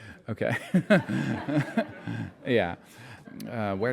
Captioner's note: audience laughs